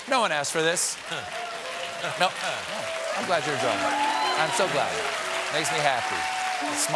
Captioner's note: applause